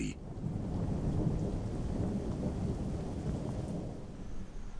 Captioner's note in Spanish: lluvia